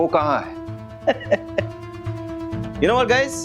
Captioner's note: laughing